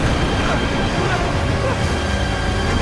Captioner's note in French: Exclamations de panique